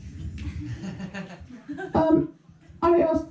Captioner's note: solitary laughter